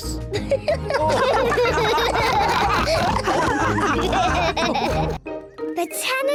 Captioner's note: all giggle